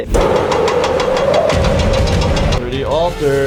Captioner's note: loud machine noises